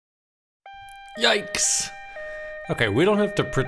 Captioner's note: siren sounding